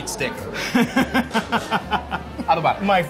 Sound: laughing

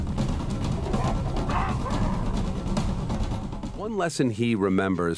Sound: baboons barking

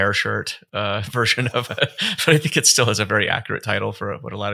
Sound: chuckles

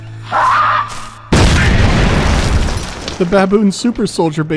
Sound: boom

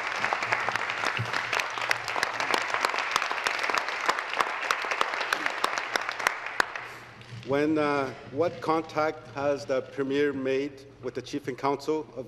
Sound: applause

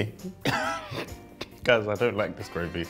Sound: laughs

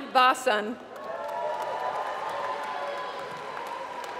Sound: applause

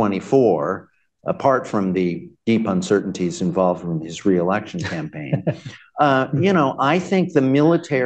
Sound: laughter

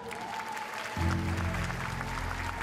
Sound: applause

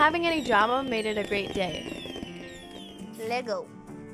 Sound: fireworks screaming and popping

